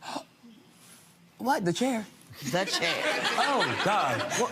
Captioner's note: gasps; crowd laughing